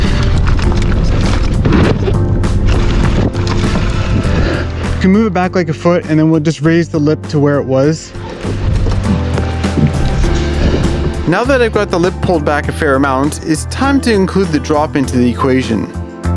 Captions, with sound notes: (bike tires on trail) - Can move it back like a foot and then we'll raise the lip to where it was. Now that I've got the lip pulled back a fair amount it's time to include the drop into the equation.